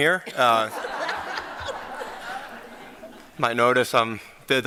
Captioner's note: laughter